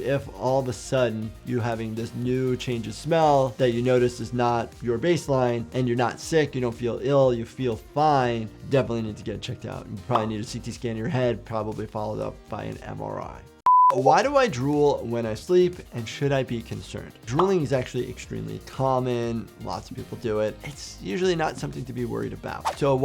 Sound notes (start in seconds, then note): 13.6 beeps; 22.6 video whooshes